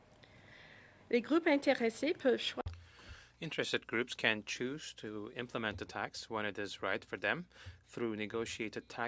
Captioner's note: speaking French